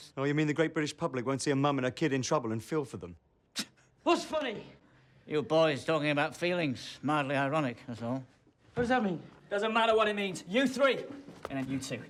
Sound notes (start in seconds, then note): 3.8 scoffs